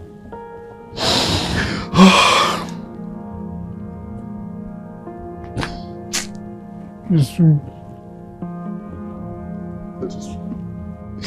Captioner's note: sobbing